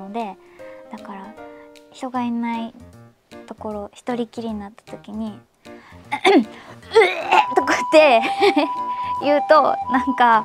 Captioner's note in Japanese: 咳払い